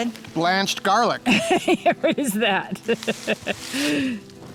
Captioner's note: laughs